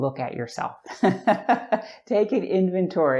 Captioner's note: chuckles